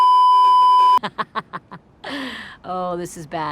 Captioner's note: beeeeeep; laugh; inhale